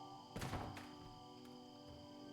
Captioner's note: clattering